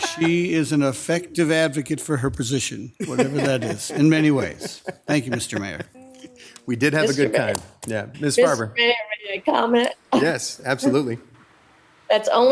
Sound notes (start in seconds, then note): 0.0 group laughs; 6.1 group laughs